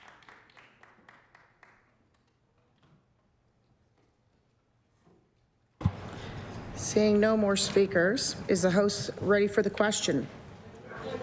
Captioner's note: applause